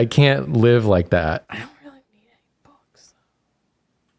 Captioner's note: whispering